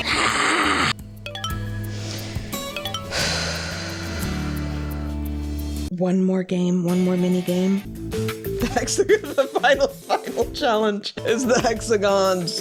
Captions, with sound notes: [seething] [exhales] One more game. One more mini game. - [laughing] The final challenge is the hexagons.